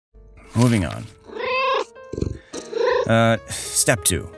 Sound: meow

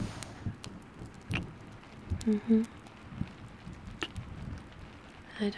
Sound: kiss

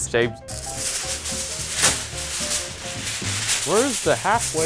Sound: foil rustling

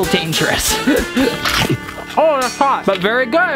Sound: crunch

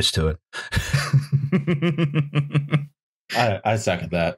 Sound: laughter

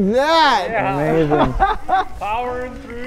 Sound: excited laughs

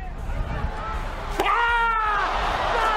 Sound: crowd screams; Rey screams

